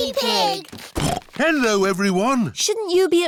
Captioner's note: snorts